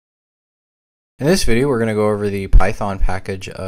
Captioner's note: voiceover